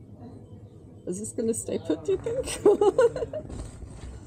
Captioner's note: laughing